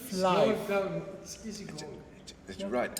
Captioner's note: speaks arabic